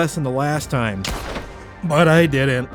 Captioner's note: gunshot